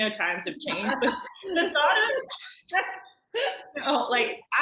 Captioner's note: laughing